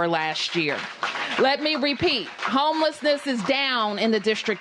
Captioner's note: applause